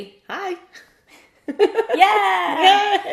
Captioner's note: laughs